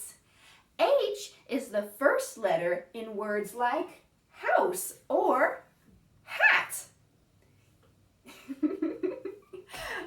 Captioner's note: laughs